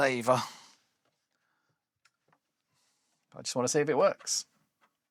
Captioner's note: sighs